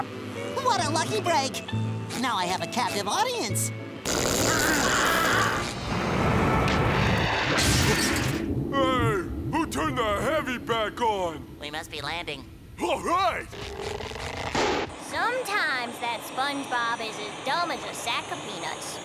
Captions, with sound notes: What a lucky break. Now I have a captive audience. [screaming] Hey, who turned the heavy back on? -We must be landing. -All right! Sometimes that SpongeBob is as dumb as a sack of peanuts.